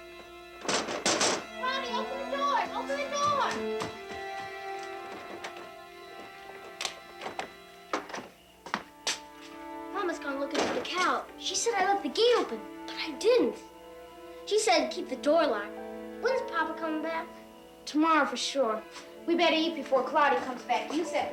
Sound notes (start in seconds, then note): 1.0 knuckles rapping